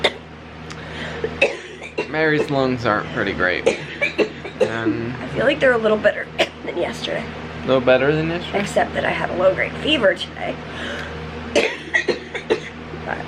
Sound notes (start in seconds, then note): 1.0 coughing; 11.5 coughing